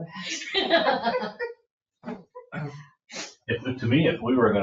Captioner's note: laughs